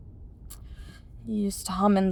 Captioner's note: tsk sound